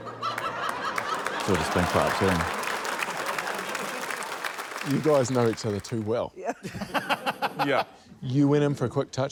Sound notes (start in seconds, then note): 6.4 laughter